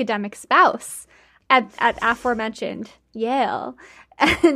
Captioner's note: laughing